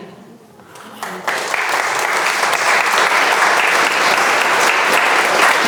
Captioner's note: audience applauds